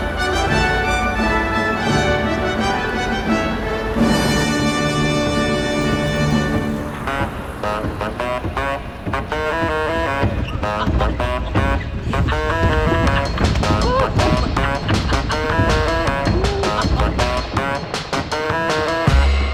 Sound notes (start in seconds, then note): 7.7 upbeat music; 14.1 laughing